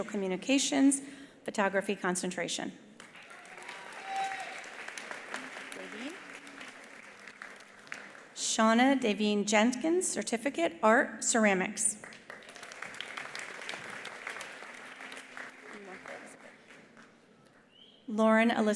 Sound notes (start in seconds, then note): 3.0 attendees applauding; 12.0 attendees applauding